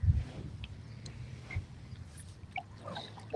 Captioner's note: birds chirping